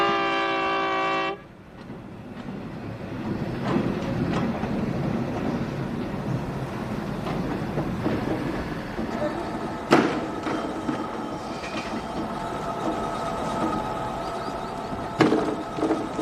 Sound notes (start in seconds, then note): 3.3 train horn blowing